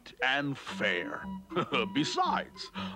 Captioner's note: chuckling